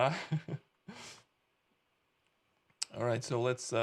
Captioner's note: chuckling